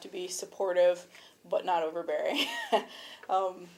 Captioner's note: chuckles